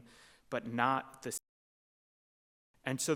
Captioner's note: audio cuts out